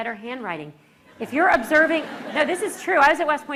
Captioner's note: laughter